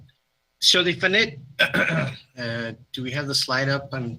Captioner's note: clears throat